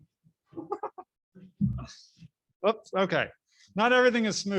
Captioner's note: laughs